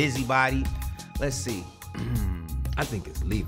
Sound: clears Throat

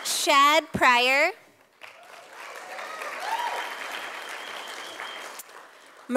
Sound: sound of applause from audience

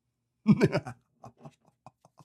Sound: laughs

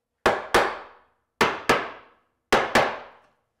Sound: hammer banging

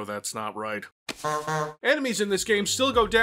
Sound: honk honk

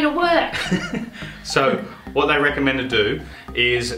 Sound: chuckles

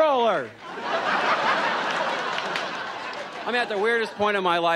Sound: audience laughs

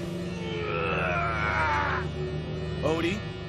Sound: grunting

